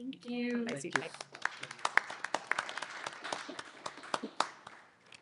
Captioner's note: applause